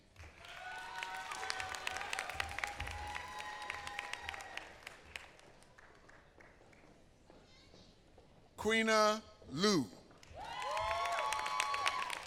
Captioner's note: applause